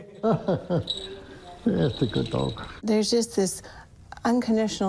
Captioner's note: chuckles